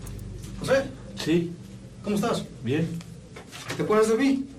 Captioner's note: conversing in Spanish